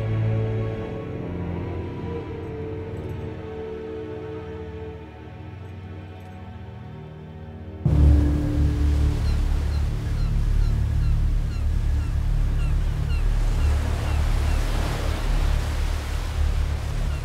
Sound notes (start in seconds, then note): 9.1 bird cawing